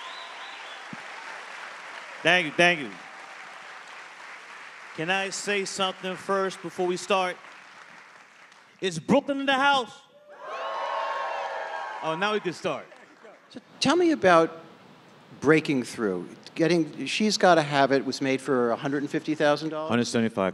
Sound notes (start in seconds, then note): 0.2 audience applauding; 12.1 audience cheering